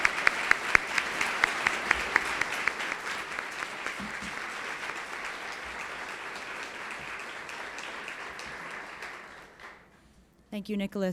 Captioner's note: applause